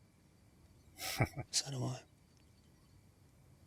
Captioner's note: chuckling